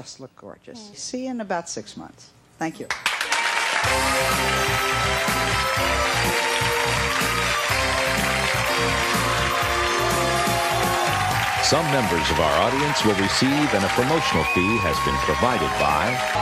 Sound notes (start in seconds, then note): 2.8 applause; 3.6 upbeat music